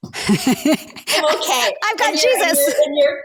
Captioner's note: laughs